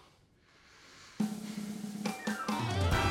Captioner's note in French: soupir; indicatif musical